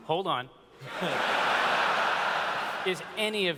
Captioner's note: laughter